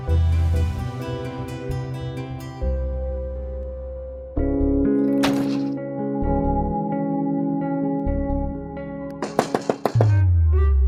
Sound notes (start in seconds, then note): 0.1 pleasant music playing; 5.1 door closing; 9.2 knocking on door